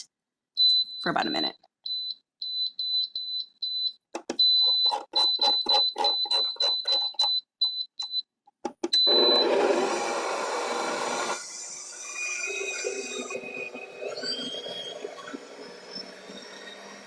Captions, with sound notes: (mixer beeps) for about a minute. (mixer beeping) (mixer whirling)